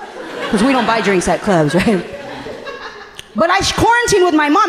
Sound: laughing

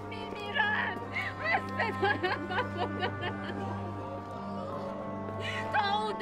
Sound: sobbing

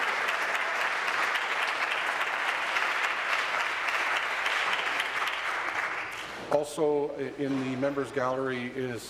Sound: applause

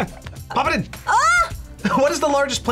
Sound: group laughs; screams

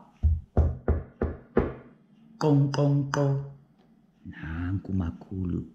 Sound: knock! Knock! Knock! Knock!

